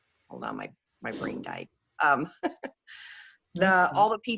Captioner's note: laughs